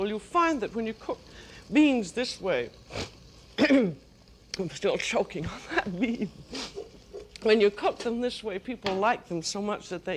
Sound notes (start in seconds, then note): 3.6 clears throat; 5.6 laughs